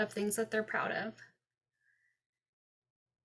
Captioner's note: silence